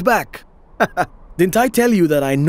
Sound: laughing

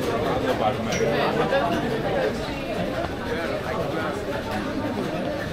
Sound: people chattering

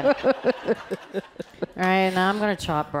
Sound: laughing

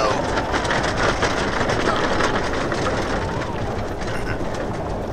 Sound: hooves thundering

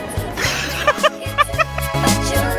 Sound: laughing at unplanned bird flipping

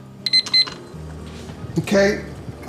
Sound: beeping

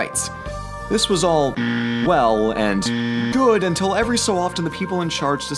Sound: buzzer

